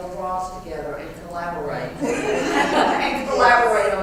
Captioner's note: laugh